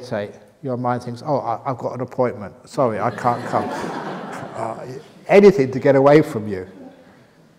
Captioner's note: laughter